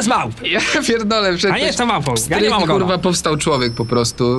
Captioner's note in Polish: śmiech